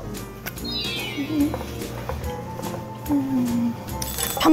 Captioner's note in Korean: 보아 생각에 절로나는 콧노래